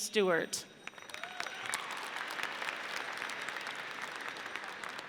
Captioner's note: audience cheers